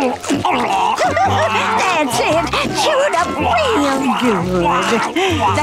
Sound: chuckles

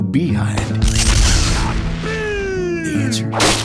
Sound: sentry Explodes

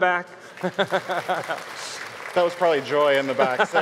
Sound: audience clapping

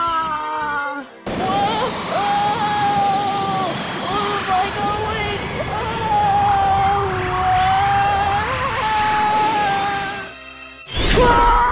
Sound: Mario Screaming

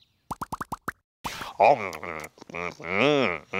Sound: gulping

